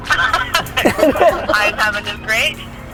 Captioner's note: laughter